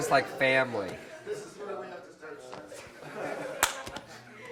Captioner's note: crowd chattering